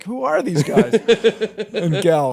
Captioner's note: laughter